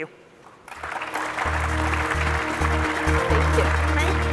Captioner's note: applause